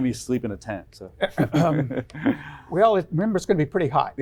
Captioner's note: chuckles